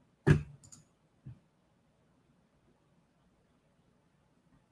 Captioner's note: computer mouse clicking